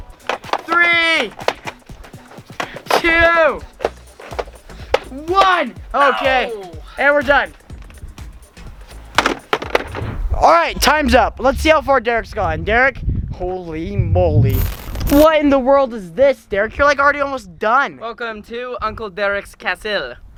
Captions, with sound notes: three, two, one. Okay. (exclaims loudly) And we're done. Alright. Time's up. Let's see how far Derek's gone. Derek, holy moly. What in the world is this Derek? I feel like you're already, almost done. - Welcome to uncle Derek's castle.